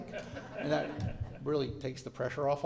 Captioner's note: laughter